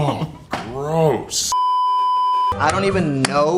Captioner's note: beeeeeeeeeeeep